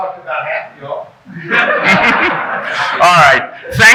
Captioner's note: audience chuckling